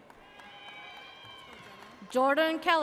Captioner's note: audience cheers